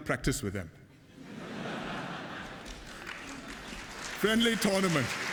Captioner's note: laughter and applause